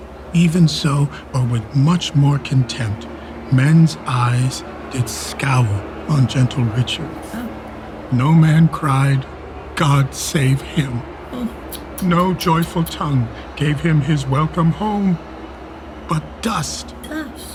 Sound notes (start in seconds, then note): 7.1 crowd booing; 11.4 tsking